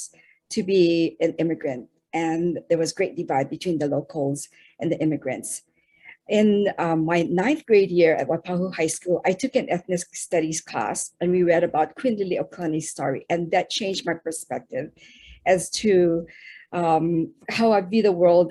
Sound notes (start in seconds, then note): 12.0 speaking in foreign language